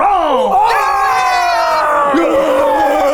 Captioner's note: all shouting